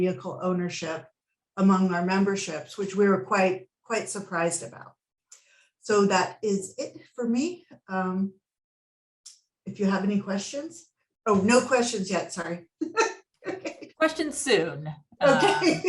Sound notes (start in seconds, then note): 13.5 laughs